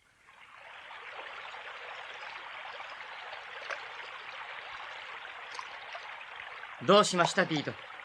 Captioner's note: SFX: water moving